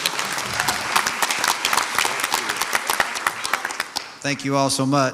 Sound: audience applauds

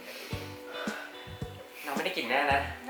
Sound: struggle breathing

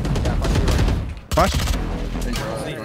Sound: guns firing

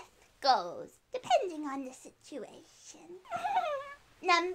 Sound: giggle

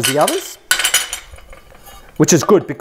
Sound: clattering

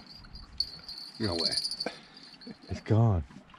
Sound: laughing

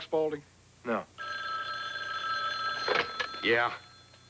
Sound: telephone rin

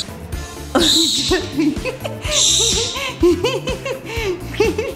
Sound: laughs

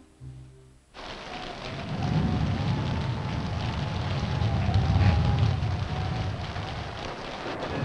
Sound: thunder rumbling; wind howling

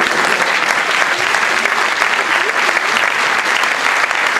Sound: applause

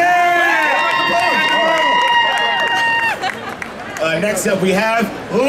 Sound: audience cheering

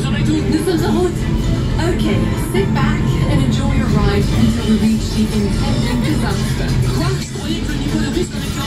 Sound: laughs

